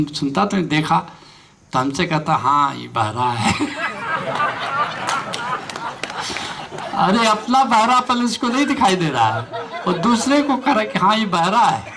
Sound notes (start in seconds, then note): 8.3 laughter